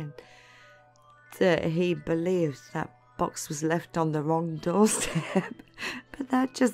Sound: laughing

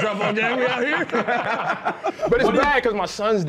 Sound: laughter

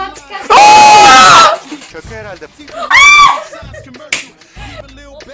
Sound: scream

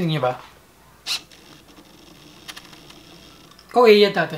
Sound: autofocus motor sound

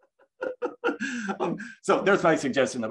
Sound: laughs

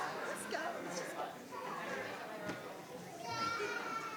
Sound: people chattering

